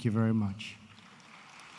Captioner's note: applause